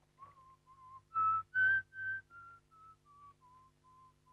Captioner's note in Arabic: الرجل يصفر